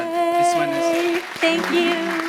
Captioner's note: audience applauding